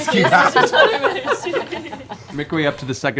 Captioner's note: laughter